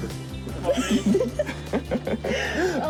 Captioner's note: both laughing